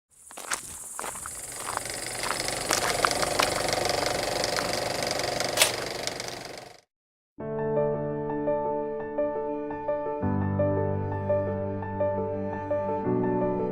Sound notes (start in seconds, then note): 0.2 footsteps and film strip running; 7.4 soft piano music